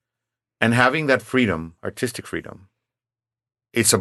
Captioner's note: none